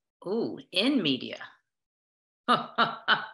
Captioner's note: laughter